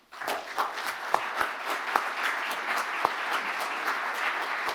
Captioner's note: audience applauding